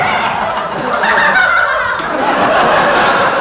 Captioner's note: giggling happily